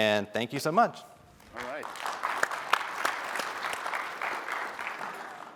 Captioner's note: applause